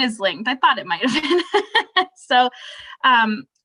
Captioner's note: laughing